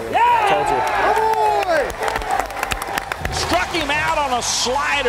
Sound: cheering and clapping

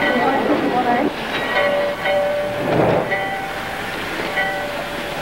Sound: people chattering indistinctly

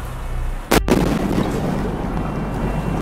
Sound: explosion

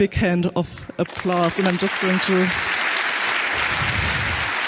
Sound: audience clapping

